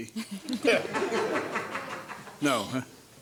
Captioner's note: audience laughs